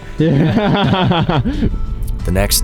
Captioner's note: laughing